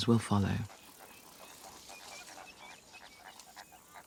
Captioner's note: insects chirping